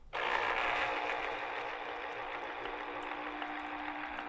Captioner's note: juicer buzzing